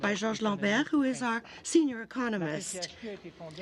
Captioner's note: speaking in French